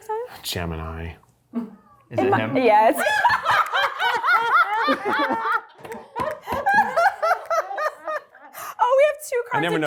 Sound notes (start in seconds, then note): 2.9 cast and crew laughing